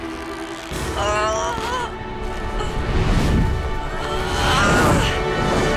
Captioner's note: grunting